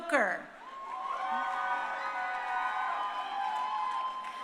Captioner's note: crowd cheering